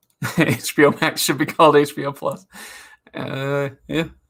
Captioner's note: laughs